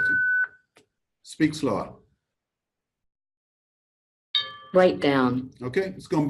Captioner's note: OrCam dings